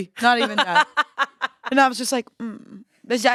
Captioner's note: laughs